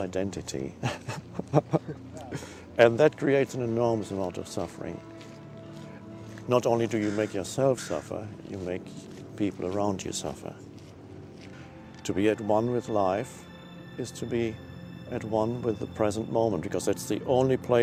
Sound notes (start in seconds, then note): 0.8 laughs